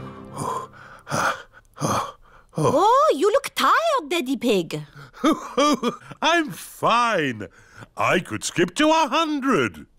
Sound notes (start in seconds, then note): 5.1 laughs